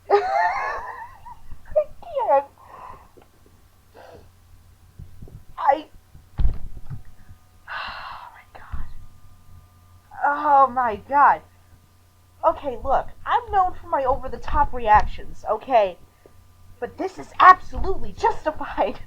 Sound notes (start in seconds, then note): 6.1 thonk; 7.6 sighing